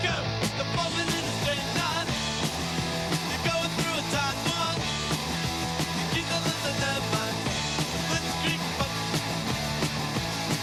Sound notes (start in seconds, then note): none